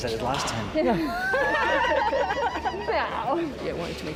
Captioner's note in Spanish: risas